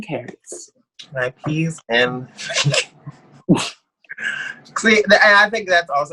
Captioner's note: laughs